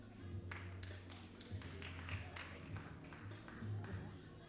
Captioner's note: all applauding